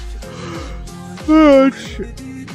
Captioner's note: yawn